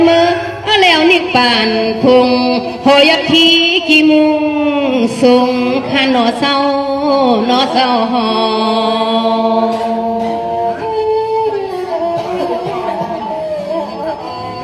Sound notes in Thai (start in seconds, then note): 8.8 เสียงหัวเราะ